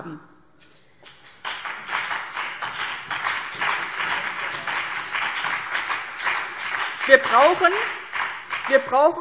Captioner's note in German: Beifall BÜNDNIS 90/DIE GRÜNEN und vereinzelt CDU